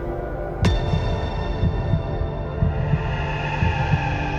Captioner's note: soft musical score; heartbeat thumps; eerie music